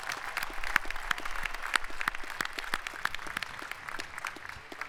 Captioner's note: applause